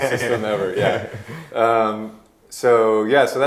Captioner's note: laughing